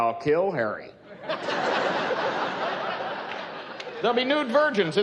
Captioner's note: laughing